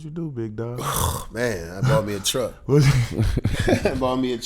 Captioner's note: exhales; laughs